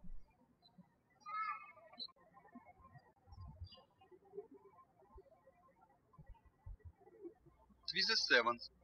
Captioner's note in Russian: птички щебечут